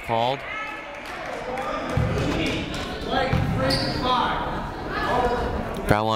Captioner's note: people shouting in the crowd